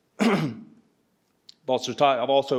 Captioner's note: clears throat